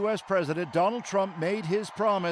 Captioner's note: cheers and Applause